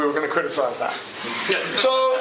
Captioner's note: laughter